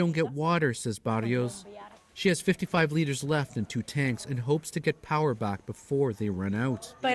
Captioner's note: speaking alternate language